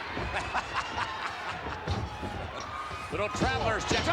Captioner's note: Vince chuckling